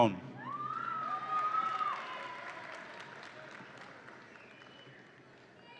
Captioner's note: audience applauds and cheers